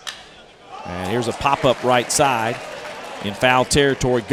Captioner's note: voiceover